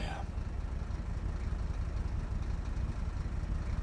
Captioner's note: car engine humming